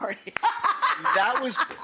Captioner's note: laughs